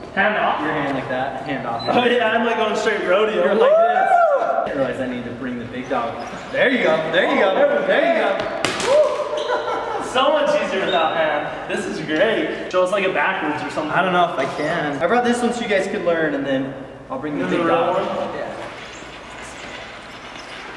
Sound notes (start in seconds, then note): 3.4 whooping; 8.8 whooping